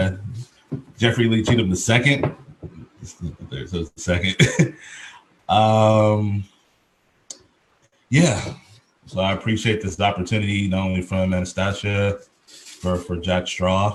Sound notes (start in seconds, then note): 2.8 chuckles